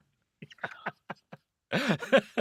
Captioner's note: laughing